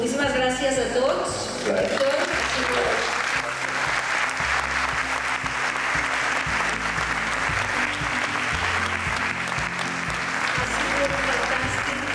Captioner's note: applause with ambient music in the background